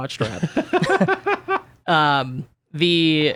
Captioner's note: laughs